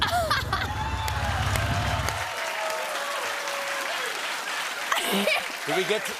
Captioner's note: laughs; cheers and applause